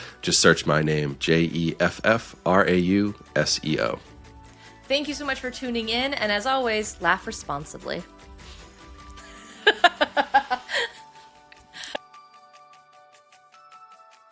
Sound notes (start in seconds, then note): 9.2 laughing; 11.5 light music